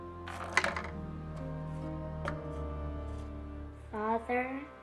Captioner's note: marble rattling